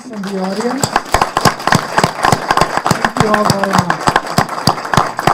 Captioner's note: applause